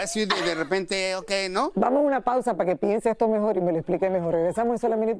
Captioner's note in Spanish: risas